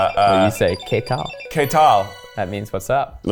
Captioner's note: speaking Spanish